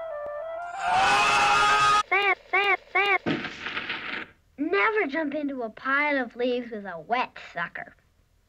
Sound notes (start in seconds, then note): 3.1 poof